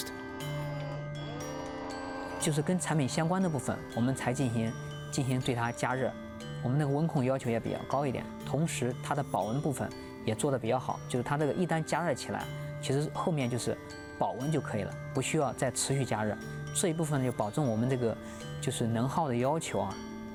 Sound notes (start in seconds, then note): 0.1 speaking chinese